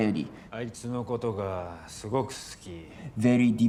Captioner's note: speaking in foreign language